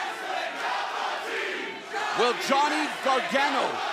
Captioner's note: fans chanting